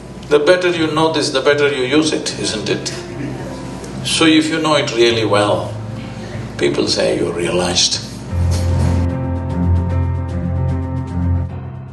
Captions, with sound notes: The better you know this, the better you use it, isn't it? So if you know it really well, people say you're realized. [Laughs]